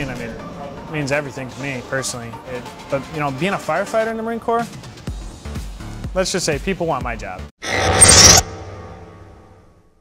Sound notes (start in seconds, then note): 7.6 mechanical sfx